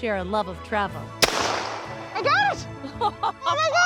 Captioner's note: gunshot